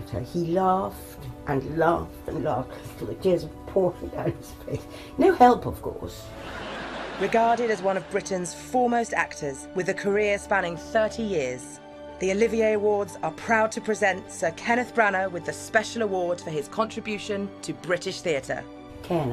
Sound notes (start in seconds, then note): 6.4 audience laughing